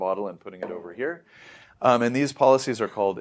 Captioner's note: inhales